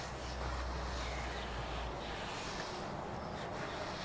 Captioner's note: quiet birdsong